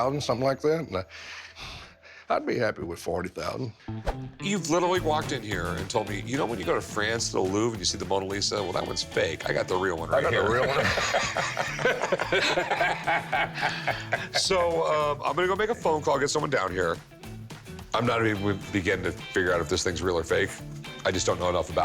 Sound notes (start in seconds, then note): 10.2 laughing